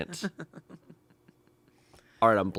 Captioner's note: laughs